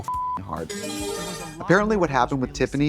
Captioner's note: beep; bright chime